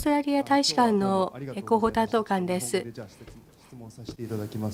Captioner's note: speaking japanese